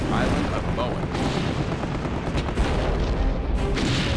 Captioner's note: explosions